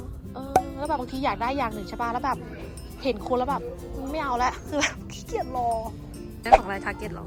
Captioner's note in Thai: หัวเราะ